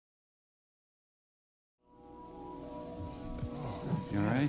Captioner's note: groans